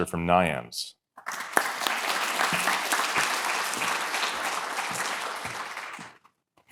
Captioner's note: applause